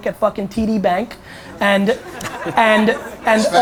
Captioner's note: audience laughter